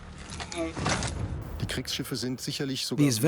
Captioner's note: speaking German